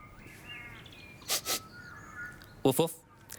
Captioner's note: sniffs